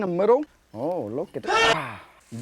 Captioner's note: ♂ Gachi scream ♂; exhaling